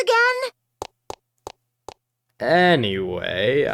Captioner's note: receding footsteps